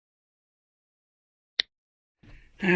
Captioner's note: mouse click